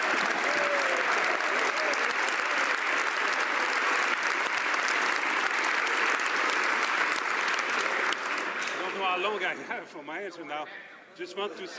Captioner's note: some Applause